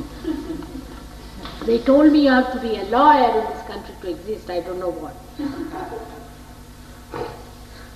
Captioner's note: laughter